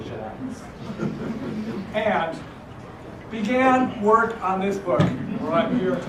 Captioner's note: laugh